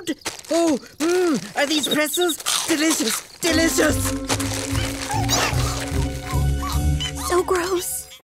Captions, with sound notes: Oh, ooh, are these pretzels? Delicious. Delicious. [whimpering] So gross.